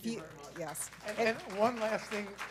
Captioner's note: applause